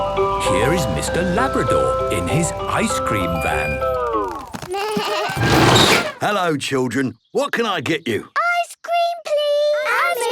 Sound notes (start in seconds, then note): 4.9 bleating, trumpeting